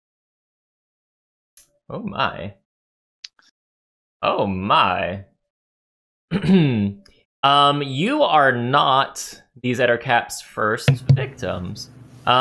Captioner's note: clears throat